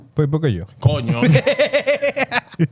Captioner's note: speaking In Foreign Language; laughing